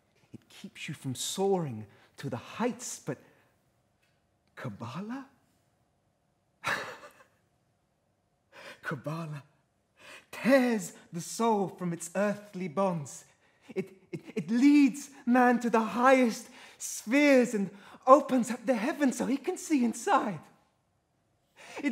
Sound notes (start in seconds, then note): 6.6 laughs